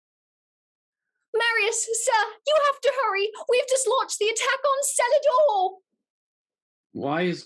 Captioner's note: with a terrible cockney accent